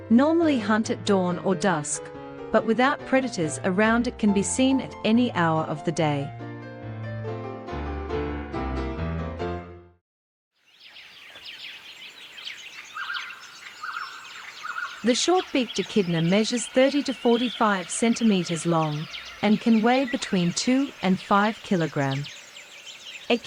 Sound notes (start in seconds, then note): 6.2 piano music background; 10.5 birds chirping